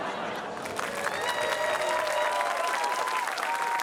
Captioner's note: cheering, applause